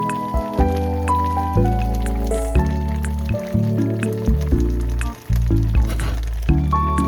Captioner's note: pat pat